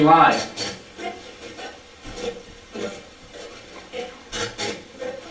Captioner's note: static playback transmitting